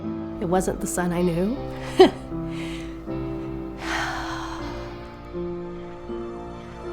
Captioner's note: sighing; melancholy music